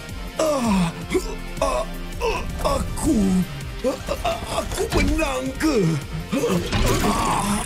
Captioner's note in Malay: mengerang